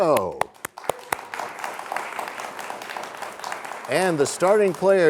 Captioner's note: applause